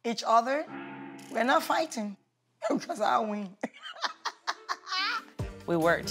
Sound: laughs

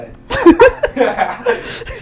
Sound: everyone laughs

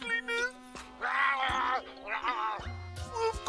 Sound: Robotnik continues snarling

